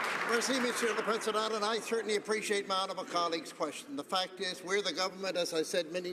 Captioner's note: some Applause